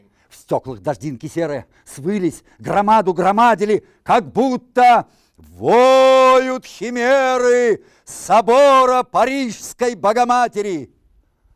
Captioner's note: reciting poem in Russian